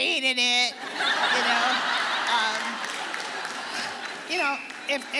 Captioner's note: audience laughing